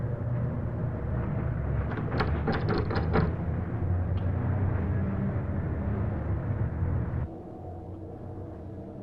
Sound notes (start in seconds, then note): 2.0 doorknob rattles